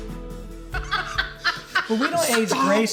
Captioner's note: laughing